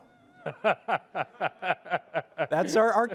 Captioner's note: laughter